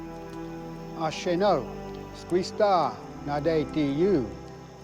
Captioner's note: Ostenaco speaking Cherokee